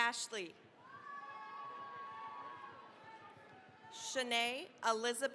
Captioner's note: cheering, applause